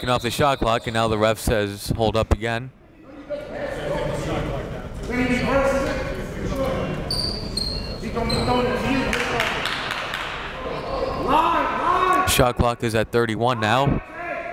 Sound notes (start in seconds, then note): 4.4 gymnasium bustles